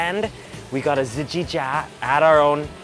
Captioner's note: speaking foreign language